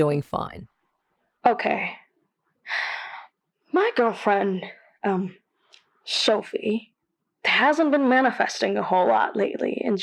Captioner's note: takes a breath